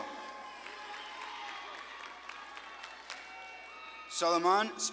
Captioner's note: audience claps and cheers